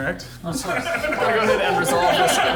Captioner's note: players laughing